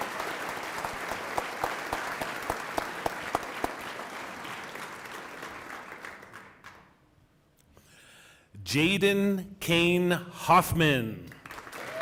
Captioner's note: applause